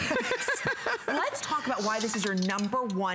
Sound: laughter

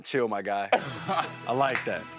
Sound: laughs

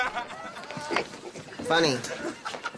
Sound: crowd laughs

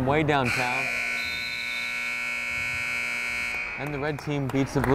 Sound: buzzer blares

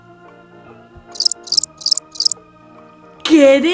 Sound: crickets chirping

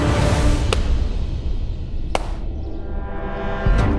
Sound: claps hands

